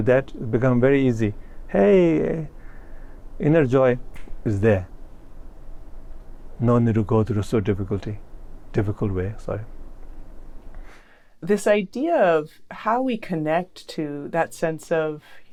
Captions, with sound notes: that become very easy. "Hey, inner joy." [snaps fingers] It's there. No need to go through so difficulty. Difficult way, sorry. This idea of how we connect to that sense of,